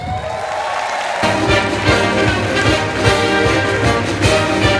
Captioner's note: audience applauding